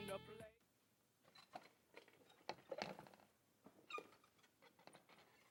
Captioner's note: chair clanking